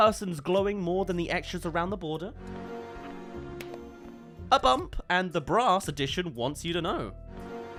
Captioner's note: sandals break